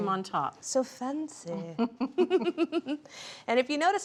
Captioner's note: laughs